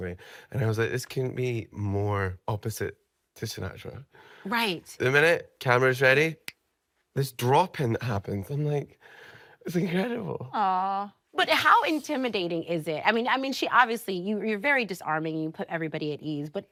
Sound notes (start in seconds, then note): 6.4 fingers snapping